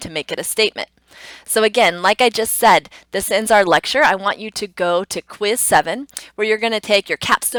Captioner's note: tongue clicks